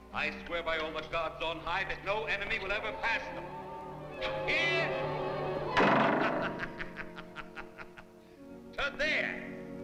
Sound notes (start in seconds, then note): 5.6 bow thuds; 5.9 laughs